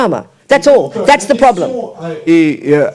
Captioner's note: speaking in French